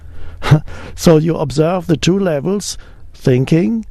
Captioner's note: chuckles